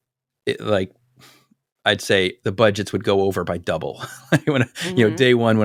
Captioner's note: laugh